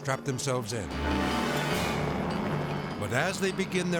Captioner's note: helicopter droning